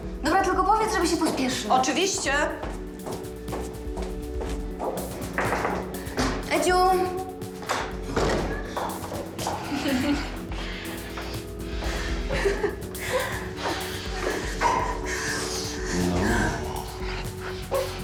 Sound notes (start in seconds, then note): 9.4 female laughter; 11.7 giggling